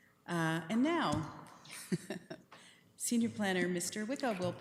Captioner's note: chuckling